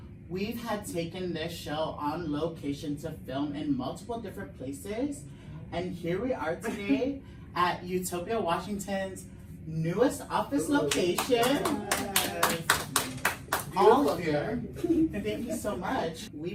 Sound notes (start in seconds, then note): 10.8 everyone claps